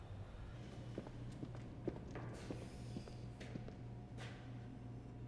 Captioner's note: shoes clacking